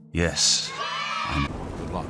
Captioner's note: children cheering